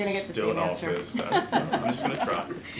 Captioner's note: laughs